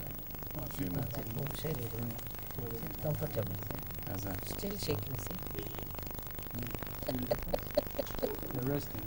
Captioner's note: laughs